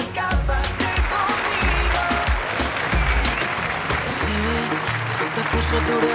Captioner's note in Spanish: Aplausos